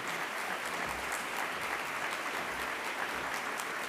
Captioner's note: applause